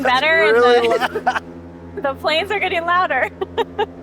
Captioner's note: laughs